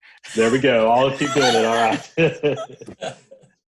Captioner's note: laughs